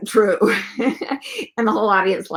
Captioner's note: laughter